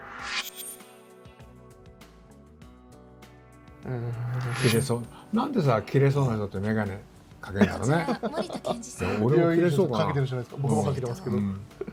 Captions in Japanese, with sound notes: 東京地検 検事正 モリタ クニヒコ なんで、切れ者って、 メガネをかけるんだろね。 [笑い] 吉川さんもメガネを かけているじゃないですか。